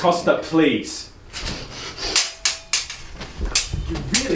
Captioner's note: swords clanging